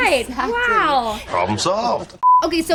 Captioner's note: beep